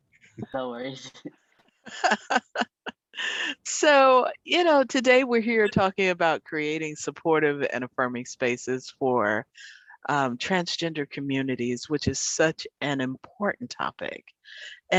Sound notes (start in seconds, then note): 1.8 laughter